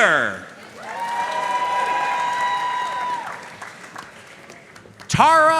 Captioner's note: audience cheering and applauding